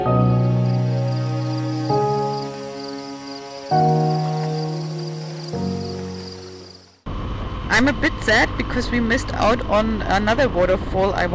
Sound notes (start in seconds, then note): 0.0 insects chirping